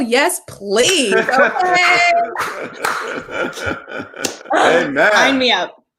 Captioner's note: laugh